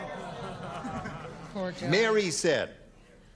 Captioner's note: chuckles